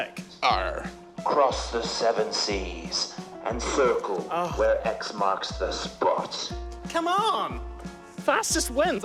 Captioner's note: sighs